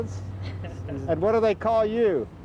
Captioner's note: laughing